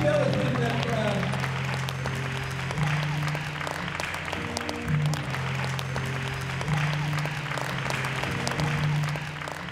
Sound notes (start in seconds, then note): 2.2 audience applause